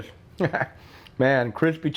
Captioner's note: cook laughs